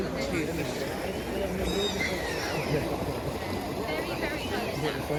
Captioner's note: seagulls squawk overhead